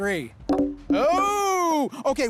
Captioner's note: balls bounce